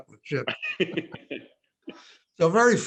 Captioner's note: laughing